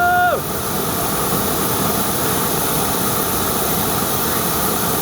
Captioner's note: flames roaring